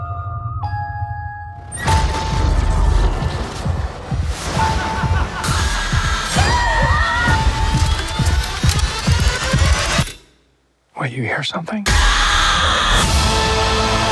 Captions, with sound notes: [Evil laughter] [Screaming] KENT Wait, you hear something?